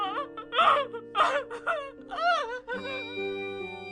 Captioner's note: wailing